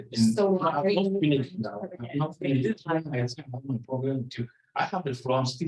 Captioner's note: audio warbling